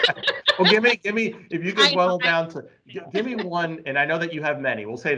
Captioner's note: laughing; laughing